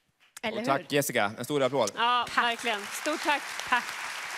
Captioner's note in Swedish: Publiken applåderar